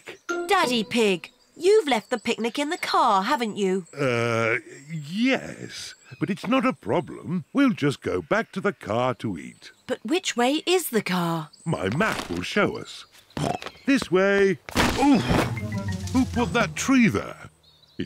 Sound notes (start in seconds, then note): 13.6 snorts